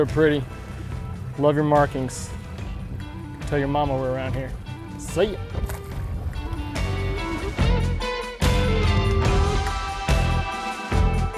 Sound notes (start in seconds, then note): 5.5 fish splashes; 7.2 rock music continues playing